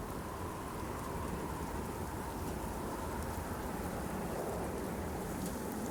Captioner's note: wind noise